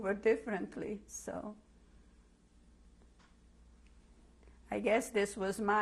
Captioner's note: pauses for 3 seconds